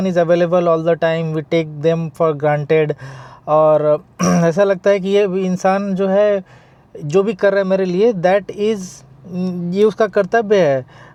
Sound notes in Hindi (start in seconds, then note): 4.2 गला साफ़ करने की आवाज़